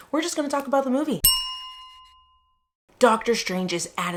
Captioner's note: bell chime